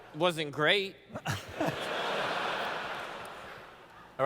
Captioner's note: laughter